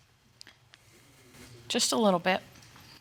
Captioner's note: sniffles